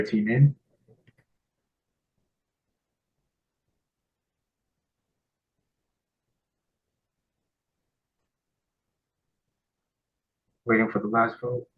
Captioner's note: pause